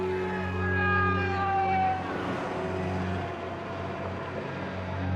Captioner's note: sirens blaring